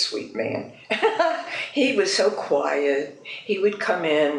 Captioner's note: laughs